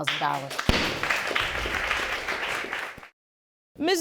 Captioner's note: audience applauding